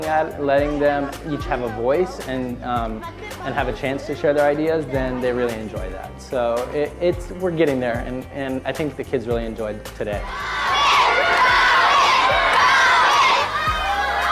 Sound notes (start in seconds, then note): 10.3 children chanting; 13.0 cheering